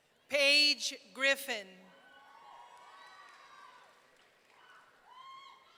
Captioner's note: audience cheering